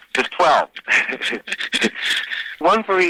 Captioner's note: both chuckling